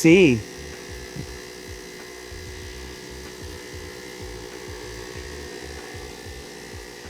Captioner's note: motor whirring